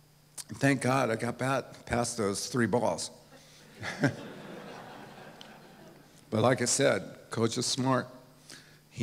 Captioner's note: laughs